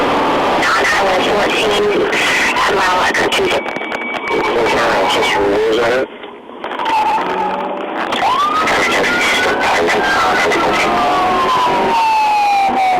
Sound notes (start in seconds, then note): 6.6 siren; 9.4 voice on radio